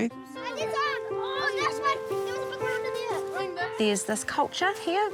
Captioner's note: children chatter excitedly